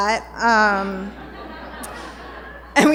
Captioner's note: laughter